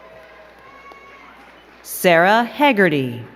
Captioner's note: crowd cheering and clapping